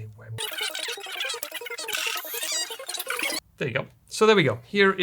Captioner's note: fast forward sounds